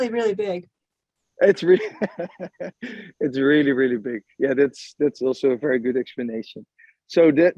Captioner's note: laughs